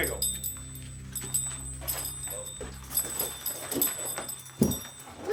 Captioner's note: spurs clattering